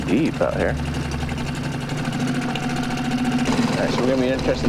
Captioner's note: boat motor puttering